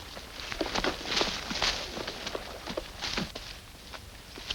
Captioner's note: grass rustles